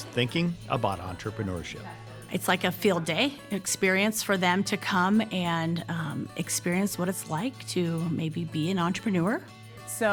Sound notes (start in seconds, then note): none